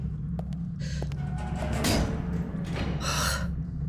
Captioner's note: the CLANG of metal bars slamming shut